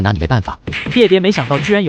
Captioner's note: slap, slap, two slaps